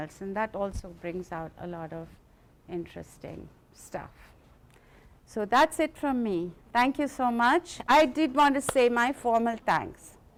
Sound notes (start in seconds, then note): none